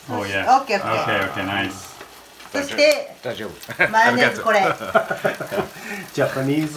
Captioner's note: Japanese language 00:09:16